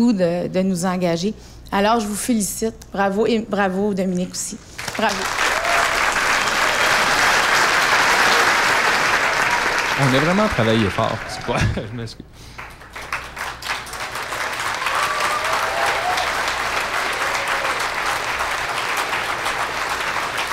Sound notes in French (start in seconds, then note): 12.8 applaudissements; 14.2 acclamations